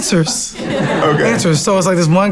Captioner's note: laughs